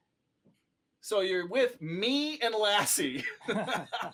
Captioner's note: laughter